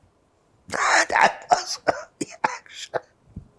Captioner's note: laughing